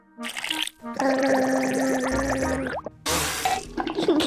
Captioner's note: gargles